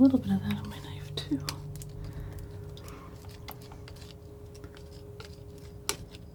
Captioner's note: scissors snipping